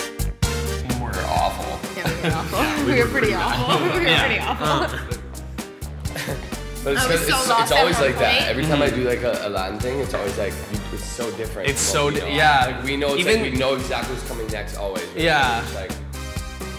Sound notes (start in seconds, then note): 5.3 laughs